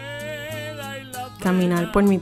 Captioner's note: spanish dialogue